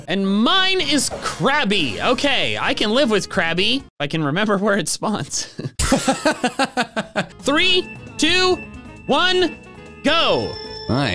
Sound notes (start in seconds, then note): 5.5 laugh